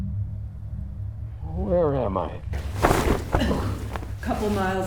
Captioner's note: cloth ripping off